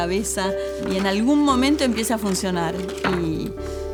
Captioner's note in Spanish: sonido tijera cortando acetato